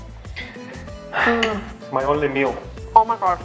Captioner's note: husband sighs